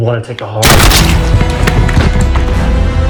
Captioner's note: blood splatters; gunshot